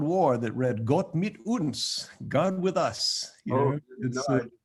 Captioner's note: speaking German